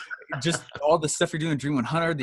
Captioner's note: laughing